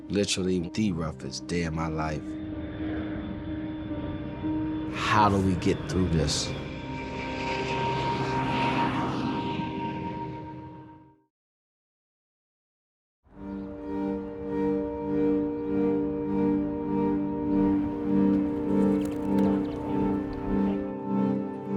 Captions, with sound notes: Literally the roughest day of my life. How do we get through this? (airplane jets roaring) (birds chirping)